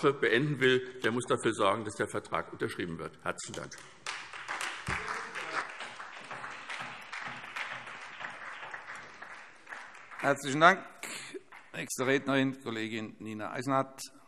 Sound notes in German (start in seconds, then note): 3.5 Beifall SPD und DIE LINKE